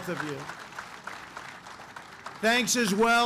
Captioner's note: applause